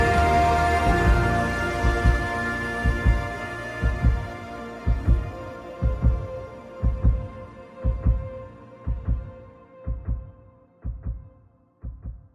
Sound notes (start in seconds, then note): 4.8 heart beating